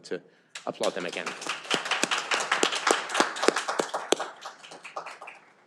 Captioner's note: audience applauding